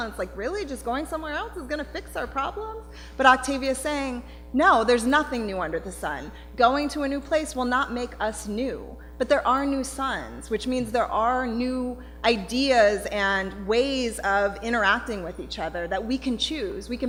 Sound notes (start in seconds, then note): none